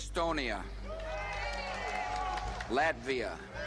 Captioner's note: cheering